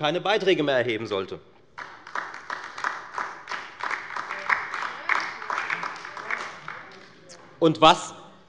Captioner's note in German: Beifall bei der FDP, der LINKEN und bei Abgeordneten der SPD